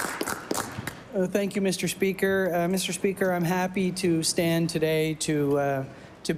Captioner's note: applause